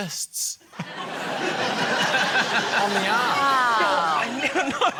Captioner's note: laughter; comedians exclaim